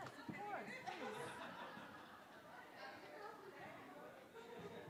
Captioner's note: attendees laughs